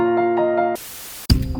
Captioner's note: static sound